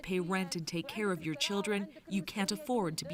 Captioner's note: speaking Foreign Language